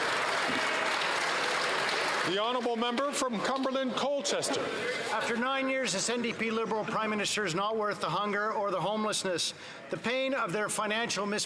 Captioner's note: some Applause